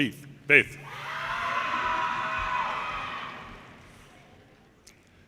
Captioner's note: audience cheers and applause